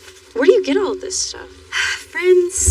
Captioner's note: sighs